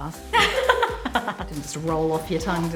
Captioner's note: laughter